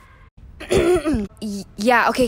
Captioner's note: clears throat